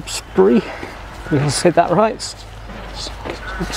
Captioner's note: laugh